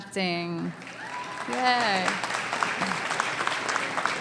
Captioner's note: applause